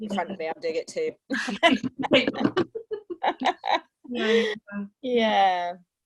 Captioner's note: laughter